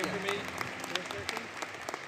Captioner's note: applause